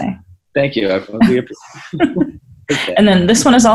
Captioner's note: laughs